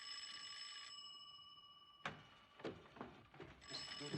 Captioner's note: ringing Continues